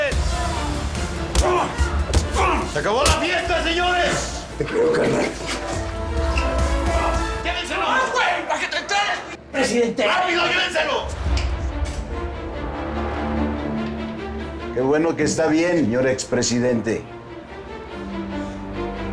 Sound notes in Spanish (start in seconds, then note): 0.1 Golpes; 6.8 Gritos